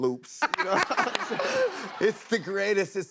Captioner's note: laughs